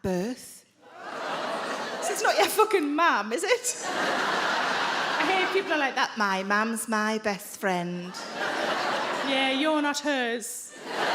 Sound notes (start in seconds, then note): 1.1 crowd members groan; 3.5 crowd laughs; 10.7 crowd laughs